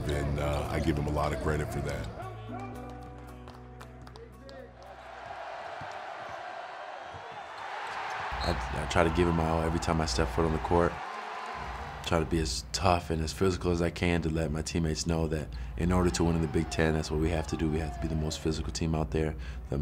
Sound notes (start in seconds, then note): 4.4 audience cheering